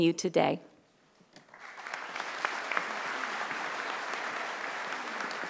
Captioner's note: audience applauding